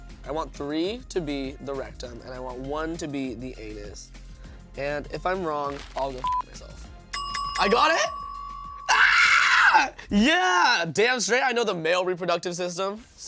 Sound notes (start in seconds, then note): 6.2 beep